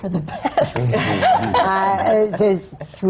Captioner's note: laughter